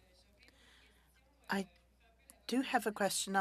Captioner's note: speaking French